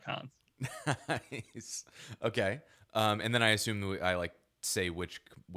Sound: laughing

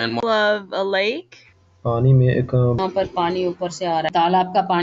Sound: speaking hindi

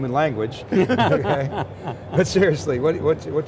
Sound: group laughs

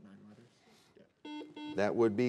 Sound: buzzer beeping

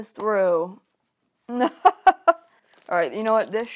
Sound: laughs

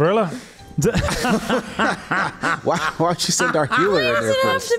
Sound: laughs

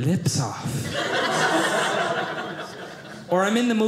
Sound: audience laughing

